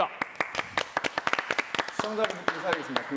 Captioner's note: applause